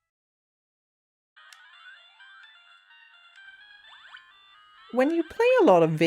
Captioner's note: Bubble Bobble sounds